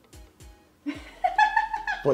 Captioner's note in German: lacht